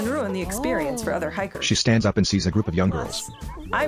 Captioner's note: giggling